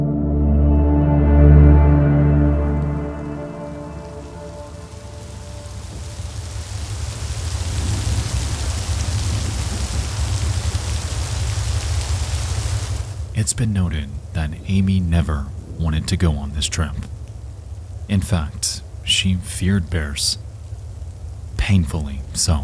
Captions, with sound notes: (melancholic music) (rain pattering) It is been noted that Amie never wanted to go on this trip. In fact, she feared bears painfully so.